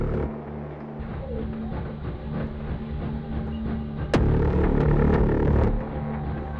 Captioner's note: train pushing forward